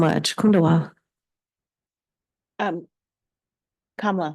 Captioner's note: speaking in foreign language